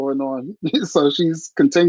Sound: laughing

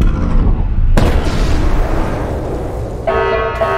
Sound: Safeguard explodes; announcement Chime

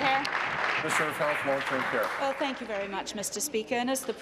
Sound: applause

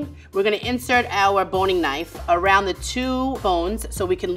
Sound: none

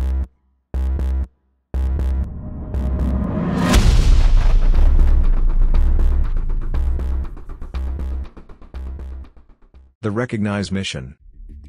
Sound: sound of an Explosion

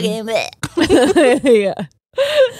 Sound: both laughing

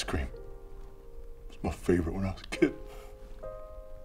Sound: choking up

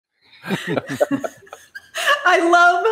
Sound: laughing

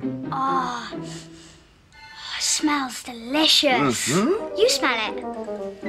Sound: sniff

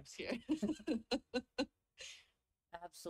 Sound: laughs

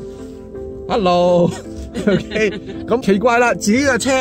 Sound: laugh

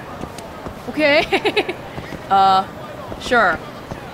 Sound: chuckles

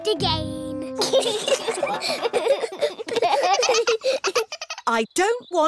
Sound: all giggling

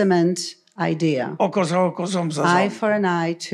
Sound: foreign language

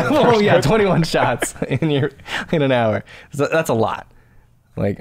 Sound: laughter

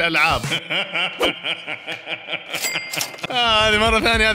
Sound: laughter

